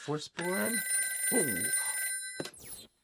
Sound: phone ringing

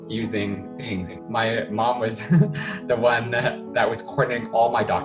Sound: chuckles

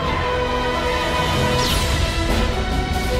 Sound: lazer going off

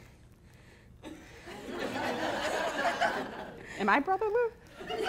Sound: laughing

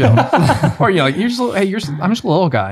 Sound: laughs

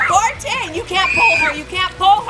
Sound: screaming

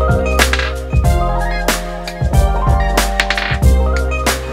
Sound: tapping table

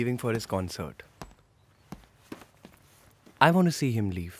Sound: footsteps

